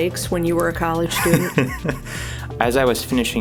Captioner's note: laughing